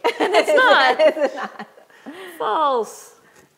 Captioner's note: chuckles